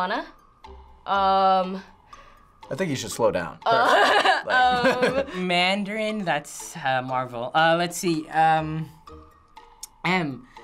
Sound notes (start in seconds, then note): 3.8 laughing